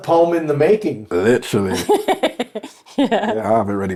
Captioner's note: laughing